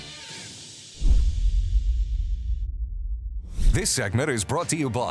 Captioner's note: swooping